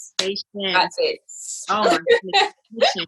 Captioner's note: hands clap